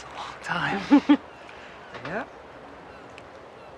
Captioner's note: Martha laughing